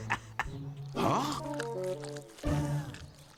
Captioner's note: laughing; chomping